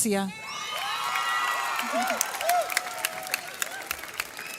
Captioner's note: audience cheers